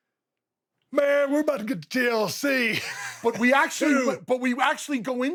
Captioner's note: laughs